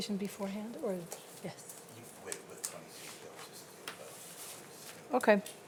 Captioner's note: faintly speaking